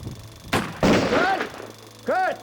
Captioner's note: gunfire